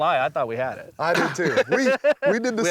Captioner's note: laughing